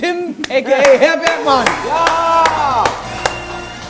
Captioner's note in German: Jubel, Applaus